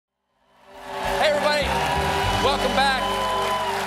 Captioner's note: cheers and applause